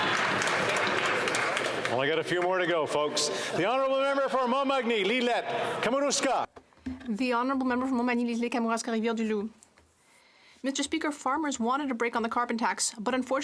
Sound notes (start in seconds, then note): 3.2 some Applause; 12.6 speaking French